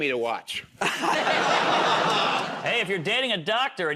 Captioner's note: laughter